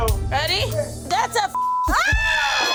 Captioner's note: beep